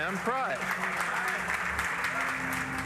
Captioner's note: applause